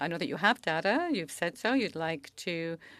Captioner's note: speaking french